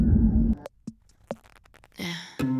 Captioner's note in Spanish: guante chirriando